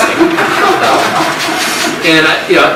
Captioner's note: audience laughs